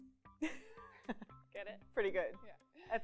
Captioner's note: laughs